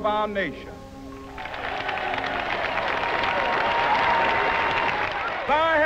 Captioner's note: applause/cheering